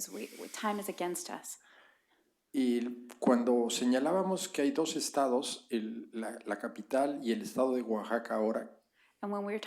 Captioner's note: spanish